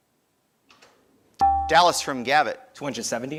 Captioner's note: buzzer dinging